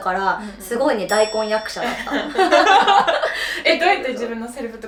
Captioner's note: laughs